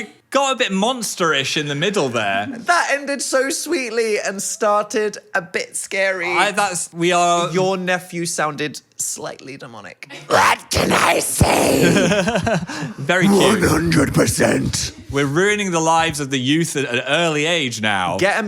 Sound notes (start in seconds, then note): 11.3 laughs